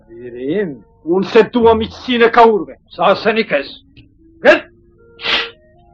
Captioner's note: speaks in Turkish